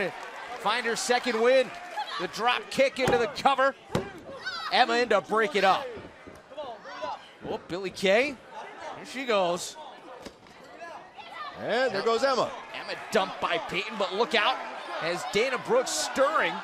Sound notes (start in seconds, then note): 5.4 crowd chatter